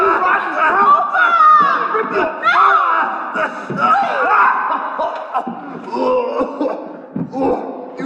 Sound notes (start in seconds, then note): 0.0 yelling and fighting; 4.6 Donnelly choking